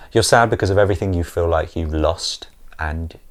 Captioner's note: none